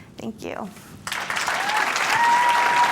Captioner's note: applause